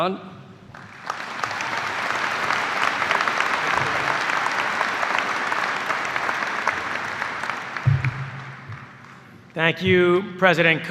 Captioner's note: cheers and applause